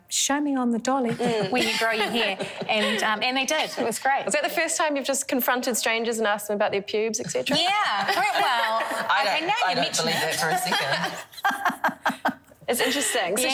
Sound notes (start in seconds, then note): 1.1 laugh; 11.2 all laugh